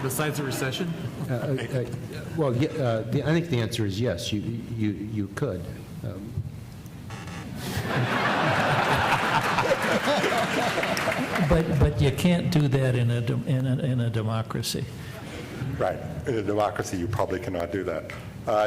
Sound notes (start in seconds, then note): 7.7 laughter